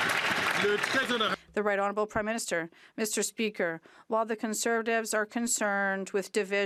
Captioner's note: some Applause